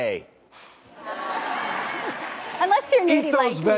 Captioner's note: audience laughing